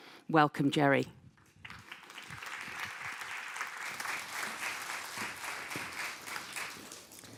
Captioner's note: applause